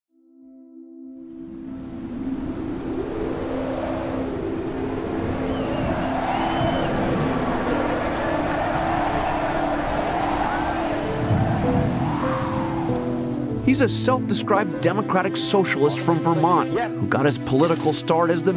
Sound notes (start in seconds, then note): 3.3 wind gusts; 5.3 distant cheers